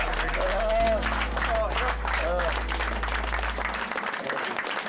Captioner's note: crew applauding